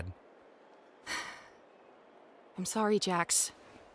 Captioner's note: sighs